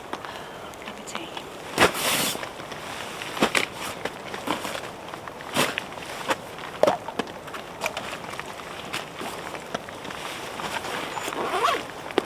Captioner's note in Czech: Zvuk deště